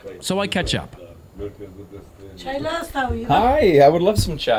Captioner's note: family speaking foreign language